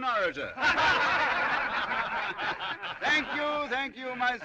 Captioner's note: جمهور يضحك